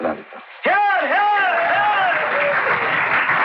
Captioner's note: Crowd Applauding